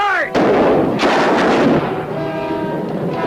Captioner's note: guns firing